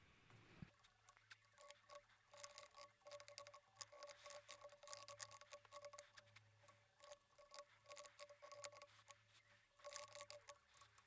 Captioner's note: typing